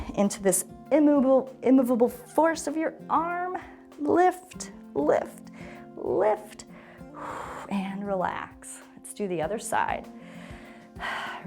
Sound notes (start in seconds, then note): 6.7 exhales; 10.2 inhales and exhales